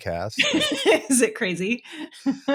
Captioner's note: laughing